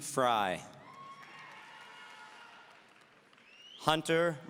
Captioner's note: audience cheering